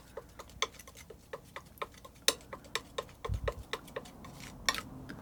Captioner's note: tapping